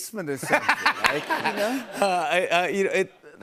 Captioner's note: laughter